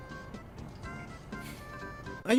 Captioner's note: sigh